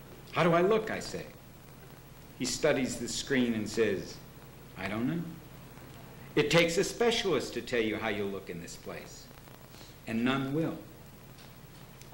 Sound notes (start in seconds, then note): none